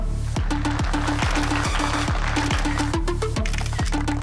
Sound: audience clapping

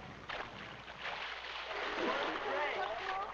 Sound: water splashing

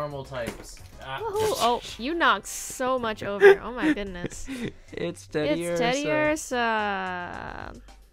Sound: laughs

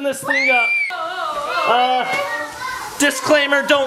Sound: screaming

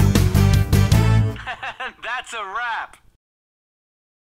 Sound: laughing

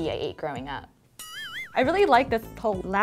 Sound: boing

